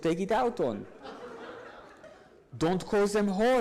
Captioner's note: audience laughs